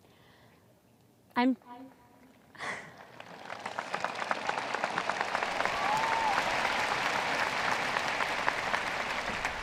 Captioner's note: audience cheers